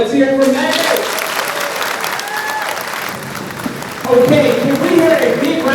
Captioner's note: audience applauding